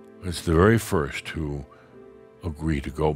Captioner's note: none